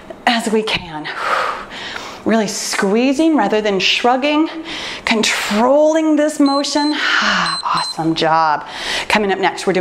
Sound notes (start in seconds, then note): 7.2 timer beeps